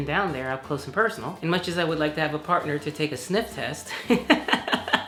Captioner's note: laughs